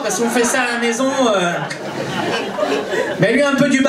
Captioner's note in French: rires public